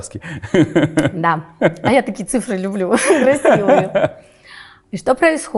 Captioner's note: laughs